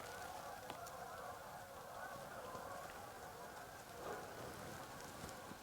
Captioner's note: geese honking in the distance